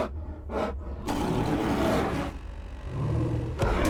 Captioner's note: snarling; growls